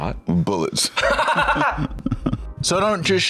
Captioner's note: laughs